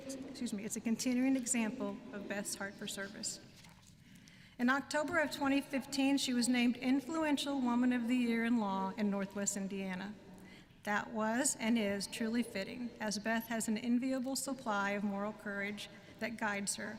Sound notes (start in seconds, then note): none